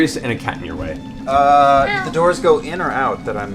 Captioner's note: meows